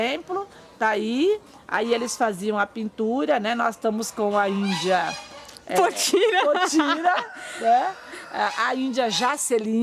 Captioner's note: laughs